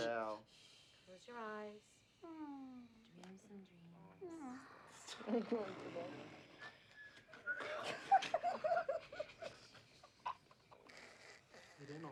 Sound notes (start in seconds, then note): 5.4 snoring; 7.6 laughter